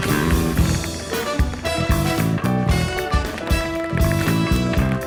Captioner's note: tapping